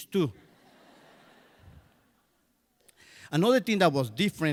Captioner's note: crowd laughs